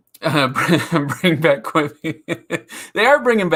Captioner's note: laughs